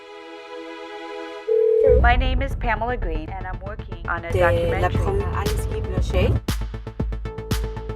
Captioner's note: phone ringing